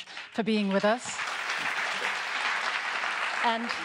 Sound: audience applauds

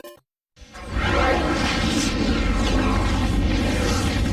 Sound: dramatic twister and helicopter noises

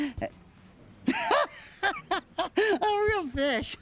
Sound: laughs again

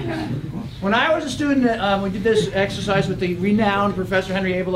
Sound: laugh

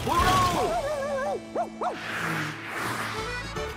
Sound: barking

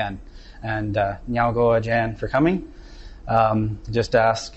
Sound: non-english speech

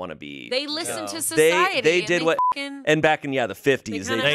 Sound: beep

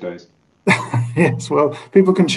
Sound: chuckles

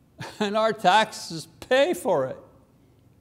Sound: chuckles

